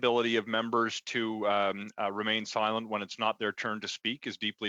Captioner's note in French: voix de l'interprète